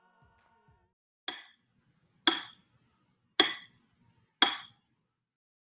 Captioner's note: metronome ticking